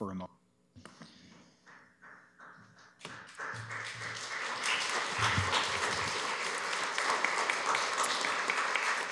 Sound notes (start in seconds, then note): 4.7 applause